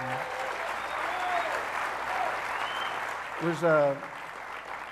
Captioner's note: audience applauding